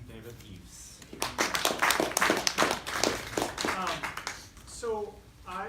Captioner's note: applause